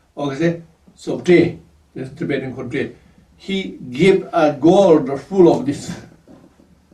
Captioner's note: tibetan